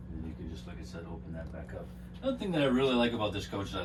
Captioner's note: faintly speaking